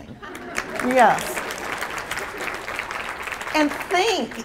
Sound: applause

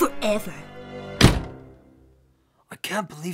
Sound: door slams

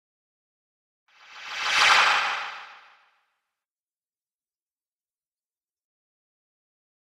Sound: sound of magical swish

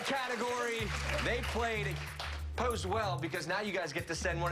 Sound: cheers and applause

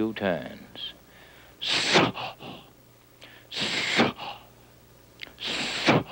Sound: imitates engine

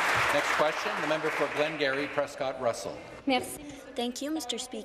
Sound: applause

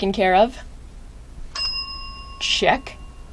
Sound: ding

